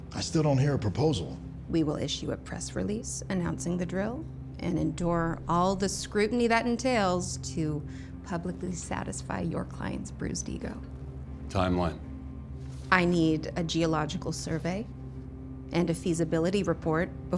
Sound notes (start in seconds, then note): none